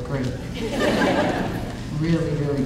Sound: audience laughing

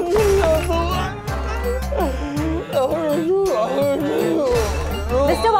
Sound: wailing

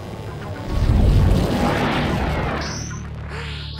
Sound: cloud creature whooshing; Marceline gasping

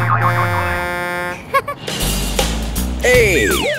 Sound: Wally giggles

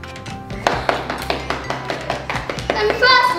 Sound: applause

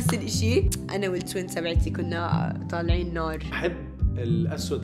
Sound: tsks

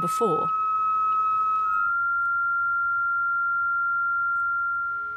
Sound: high-pitched piercing sound

